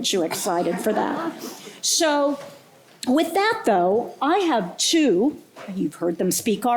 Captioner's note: laughter